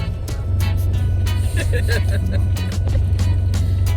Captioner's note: laughter